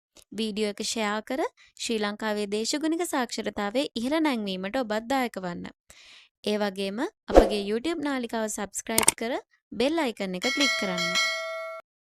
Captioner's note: bell sound